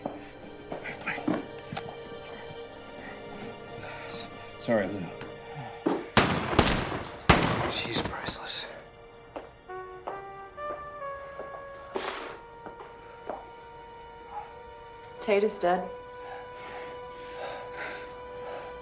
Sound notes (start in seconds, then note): 6.1 gun firing; 9.3 dramatic music